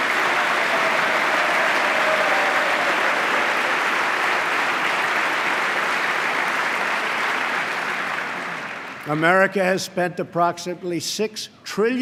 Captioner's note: applause